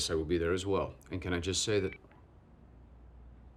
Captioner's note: phone cuts off abruptly